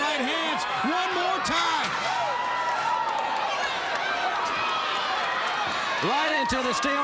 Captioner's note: crowd cheering